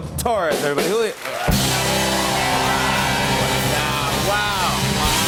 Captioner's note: cheers and applause